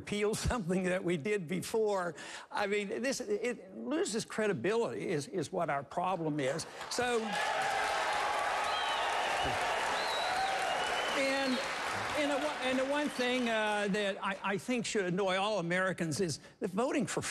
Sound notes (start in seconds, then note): 6.6 applause